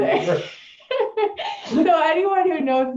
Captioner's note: laughing